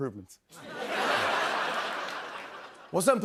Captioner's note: laughter